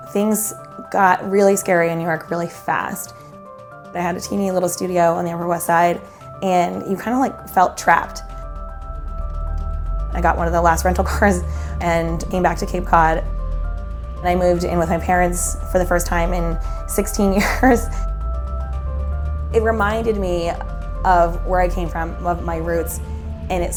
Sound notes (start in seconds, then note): 17.4 laughs